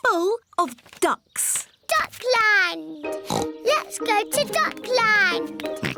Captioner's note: oinks